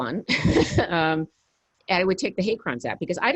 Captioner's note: laughs